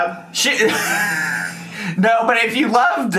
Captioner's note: laughs